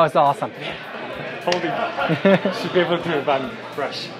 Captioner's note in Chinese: 笑声